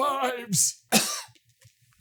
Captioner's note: hoarse; coughs